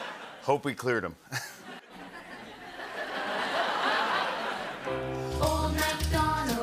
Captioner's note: laughter; laughter and applause